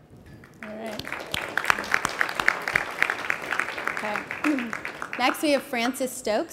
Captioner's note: applause